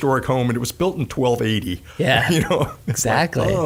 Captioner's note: laughing